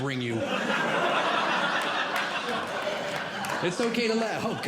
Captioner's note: audience Laughing